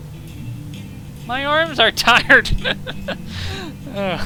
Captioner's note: laughing